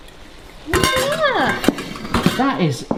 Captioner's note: scale clanking